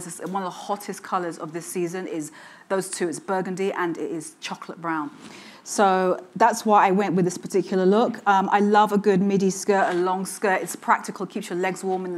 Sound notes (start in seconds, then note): none